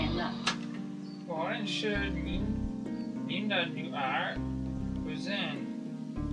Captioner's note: speaking Chinese